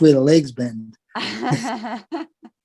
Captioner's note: laugh